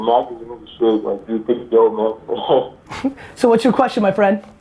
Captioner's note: laughs